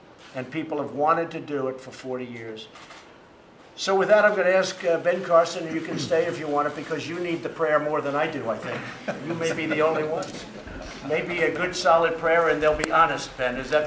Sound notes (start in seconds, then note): 8.6 laughter